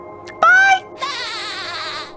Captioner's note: SpongeBob laughs